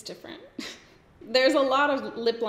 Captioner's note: giggles